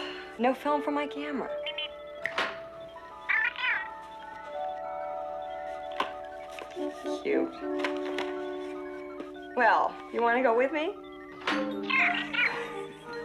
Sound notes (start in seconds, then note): 2.2 Steve Trevor snaps his Fingers